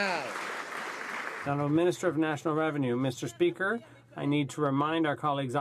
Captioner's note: some Applause